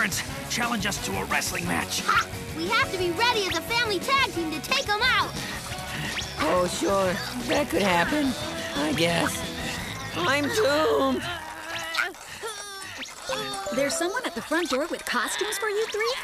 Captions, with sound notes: challenge us to a wrestling match. Ha! We have to be ready as a family tag team to take them out. Oh, sure. That could happen... I guess. I'm doomed! [grunting] There's someone at the front door with costumes for you three?